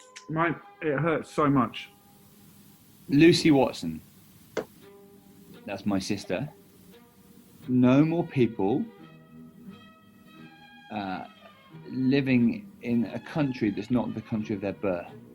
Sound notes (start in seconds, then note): none